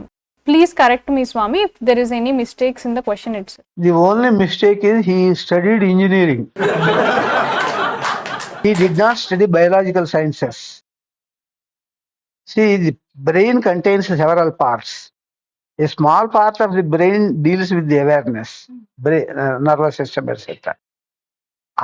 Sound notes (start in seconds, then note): 6.6 laughs